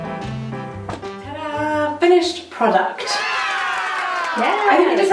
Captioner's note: cheering